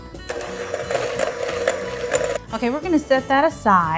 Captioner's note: mixer whirring